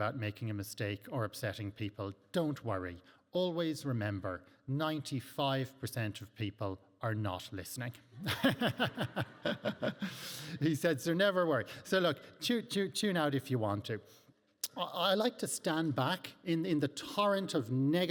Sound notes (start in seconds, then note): 8.3 laughing